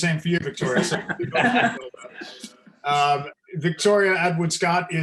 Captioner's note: panelists laughing